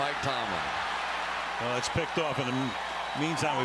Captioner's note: cheering